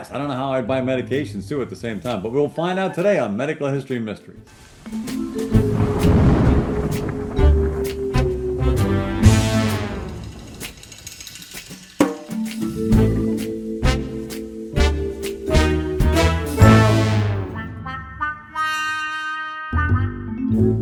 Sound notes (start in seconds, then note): 5.1 suspenseful music; 5.4 thunder booming; 6.9 suspenseful music continues